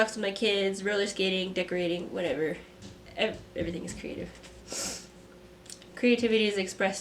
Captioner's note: sniff